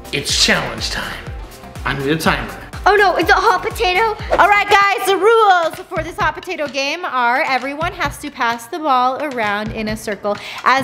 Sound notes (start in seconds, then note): none